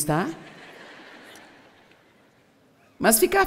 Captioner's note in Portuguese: audiência ri